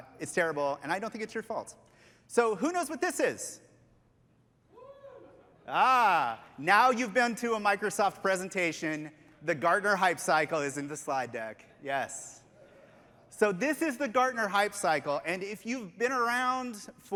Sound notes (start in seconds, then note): 5.6 cheers